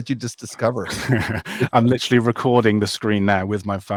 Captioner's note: laughs